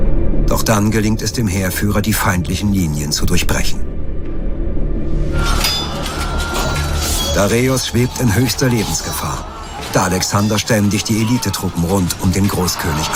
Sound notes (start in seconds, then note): 5.2 commotion